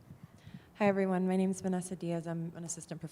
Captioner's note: voiceover